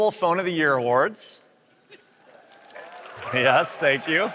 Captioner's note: applause